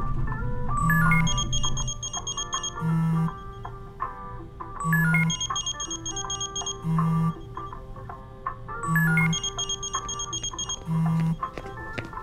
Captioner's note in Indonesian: bunyi Handphone